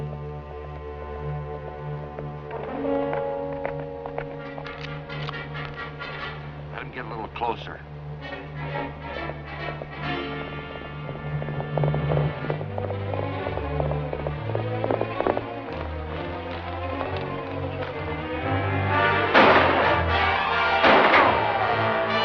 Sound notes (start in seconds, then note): 0.1 foreboding music; 4.6 gun clicking; 16.2 suspenseful music; 20.6 gunshots